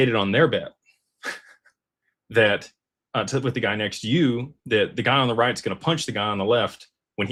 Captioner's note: laughter